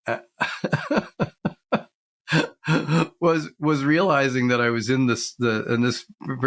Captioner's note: laughs